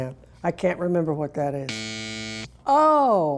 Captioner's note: buzzer buzzing